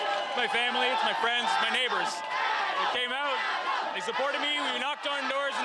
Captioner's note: cheering